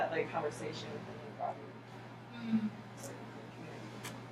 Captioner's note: speaking softly